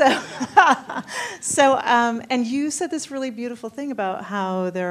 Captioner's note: laughs